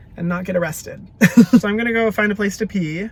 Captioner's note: laughs